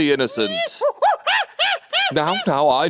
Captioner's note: monkey screeching